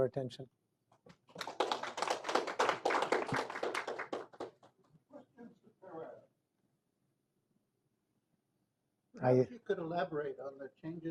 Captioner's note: applause